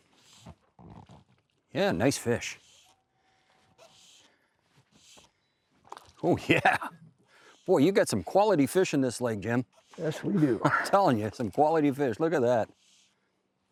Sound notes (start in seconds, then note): 6.3 laughs